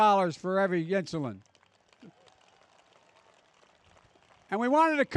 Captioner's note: applause